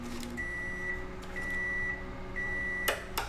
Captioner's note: microwave beeping